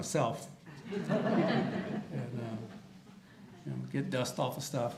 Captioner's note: audience laughter